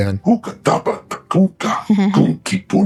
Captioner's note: laughs